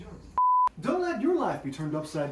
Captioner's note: beep plays